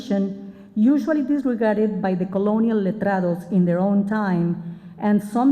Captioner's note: spanish